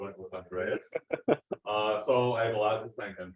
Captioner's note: laughs